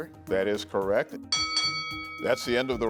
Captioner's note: bell chimes